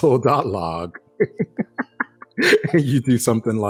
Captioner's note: laughing